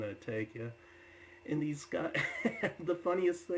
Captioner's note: laughs